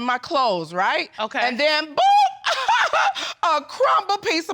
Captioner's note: laughs sarcastically